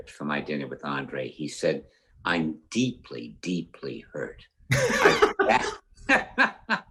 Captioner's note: laughs